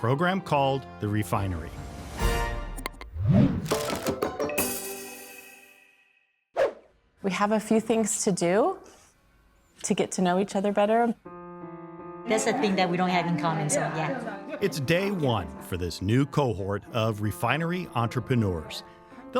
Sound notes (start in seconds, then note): 3.5 upbeat music; 5.4 gentle music; 6.5 swoosh; 11.3 gentle music